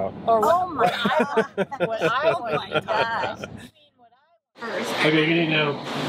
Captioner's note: everyone talking; laughing